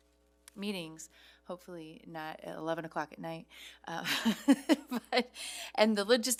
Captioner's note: laughs